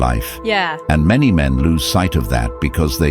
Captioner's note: AI Voice